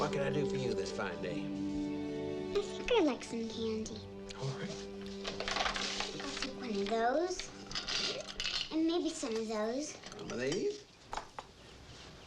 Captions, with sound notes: What can I do for you this fine day? - I think I'd like some candy. - All right. (bag crinkling) - I'll take one of those. (candy rattles) And maybe some of those. - Some of these?